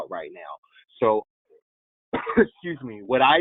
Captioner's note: coughs